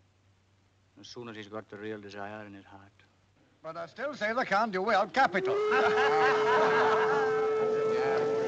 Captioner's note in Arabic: الجمهور يضحك; صوت البوق